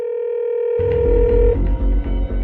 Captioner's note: calling tone ringing